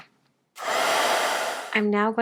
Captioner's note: heat tool whirring